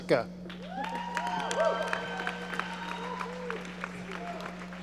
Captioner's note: audience applauding